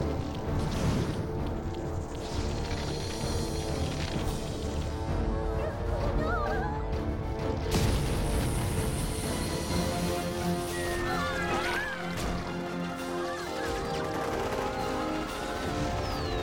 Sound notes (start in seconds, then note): 4.2 Cells Whimpering; 10.2 bombs Whistle; 10.2 whimpering Continues; 13.6 machine Gun Fire